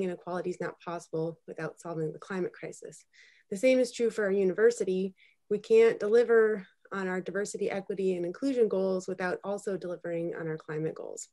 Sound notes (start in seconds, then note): none